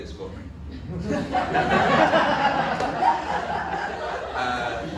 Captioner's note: audience laughs